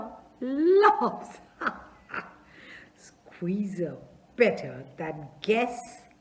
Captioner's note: laughs